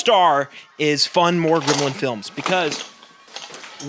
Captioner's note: Desmond moves noisily